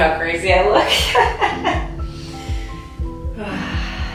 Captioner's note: laughing